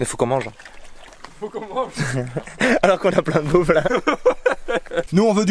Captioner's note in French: rire